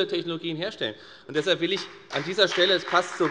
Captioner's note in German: Beifall bei der FDP